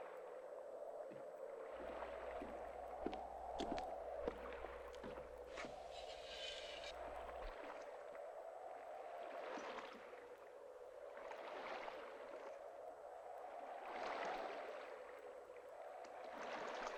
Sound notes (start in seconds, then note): 7.0 squeaking